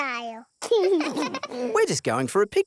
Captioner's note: both laugh